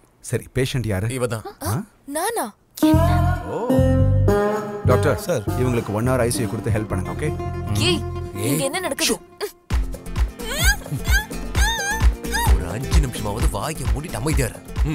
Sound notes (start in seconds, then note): 10.5 grunts